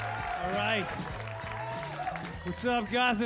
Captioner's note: audience cheering